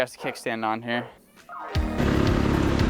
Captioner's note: engine revving